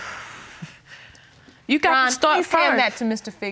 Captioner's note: exhales